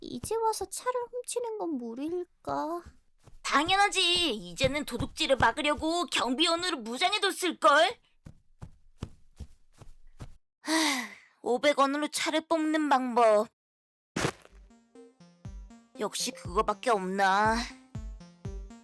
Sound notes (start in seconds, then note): 10.6 sigh